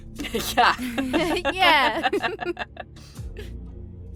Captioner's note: laugh